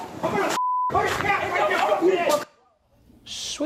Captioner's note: beep